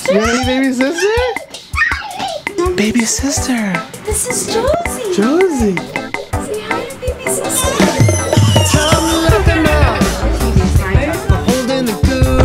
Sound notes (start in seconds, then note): 7.5 big scream